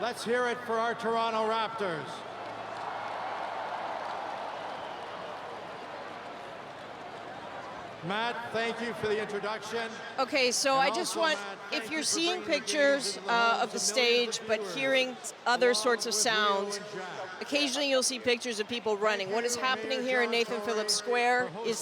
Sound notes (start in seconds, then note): 10.3 cheering; 11.6 applause